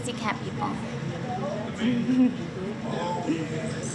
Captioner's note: laughs